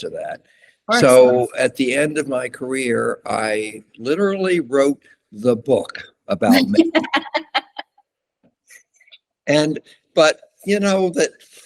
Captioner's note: laughter